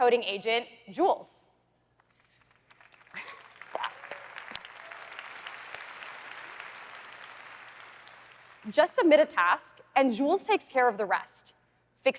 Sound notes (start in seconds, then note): 2.0 applause